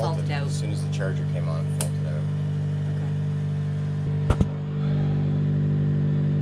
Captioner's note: generator noise